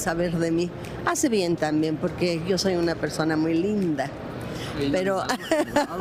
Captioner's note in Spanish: risas